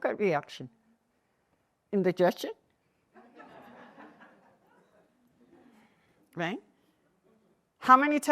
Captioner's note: laughter